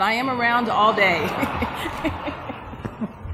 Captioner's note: laughter